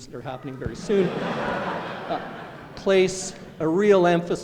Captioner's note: laughter